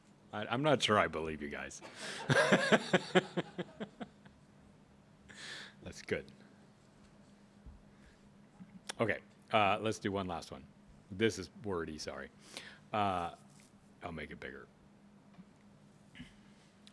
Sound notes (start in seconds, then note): 2.0 laughs